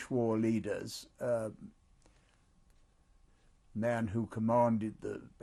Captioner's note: pauses for 3 seconds